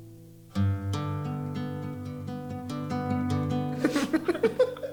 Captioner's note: laughter